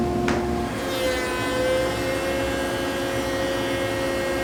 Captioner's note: machine whirring